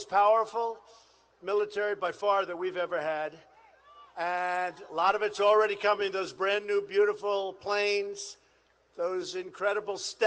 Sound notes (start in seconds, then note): none